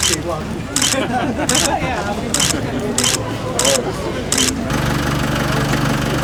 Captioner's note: more camera shutter clicks